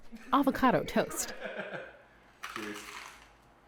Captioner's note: laughter